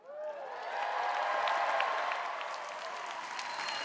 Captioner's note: applause